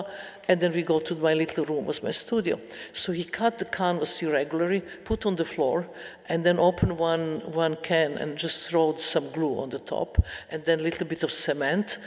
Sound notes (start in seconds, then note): none